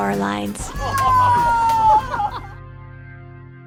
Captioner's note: laughing